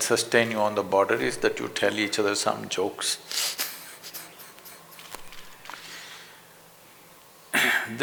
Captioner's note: laughs